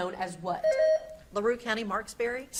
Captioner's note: beep buzzing